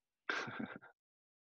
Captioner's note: laughs